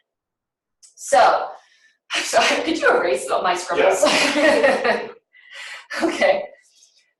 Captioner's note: laughing